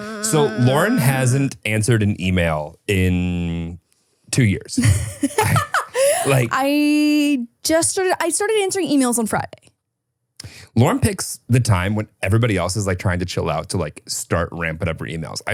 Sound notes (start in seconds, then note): 4.8 laughs